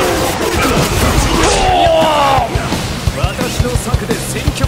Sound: KO Scream

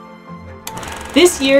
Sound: background music; film rolling sound effect

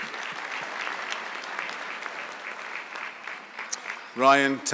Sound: audience clapping

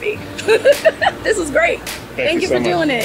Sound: laughs

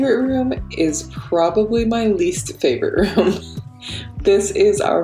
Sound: laughs

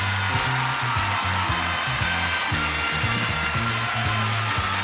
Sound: applause, cheering

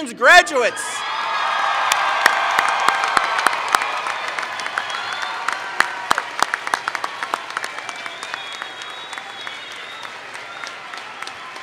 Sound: cheering/Applause

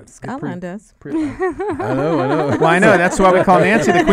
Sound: laughs

